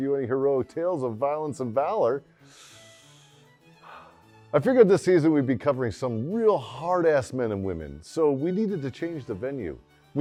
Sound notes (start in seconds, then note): 2.3 deep inhale, short exhale